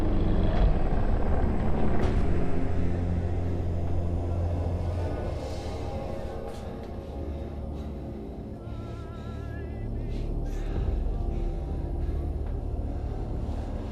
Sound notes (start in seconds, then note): 0.2 monster rasping softly; 6.1 Clint breathing heavily; 6.1 soft tense music